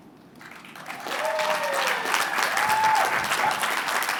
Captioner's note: applause